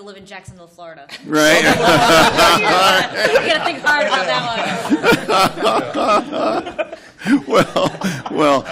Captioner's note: laughter